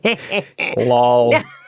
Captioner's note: laughing